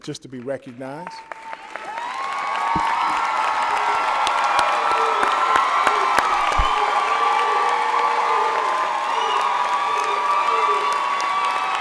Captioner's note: applause and Cheers